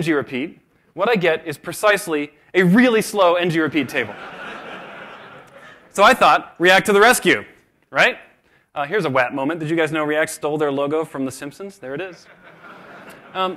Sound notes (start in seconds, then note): 3.8 laughter